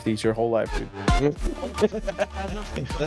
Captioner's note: laughing